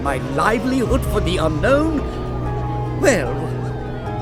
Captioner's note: police sirens blaring